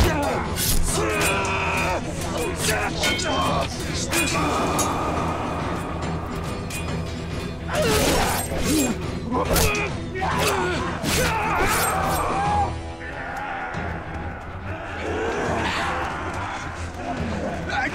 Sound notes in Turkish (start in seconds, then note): 13.0 Bağırma Sesleri; 17.4 Dövüş Sesleri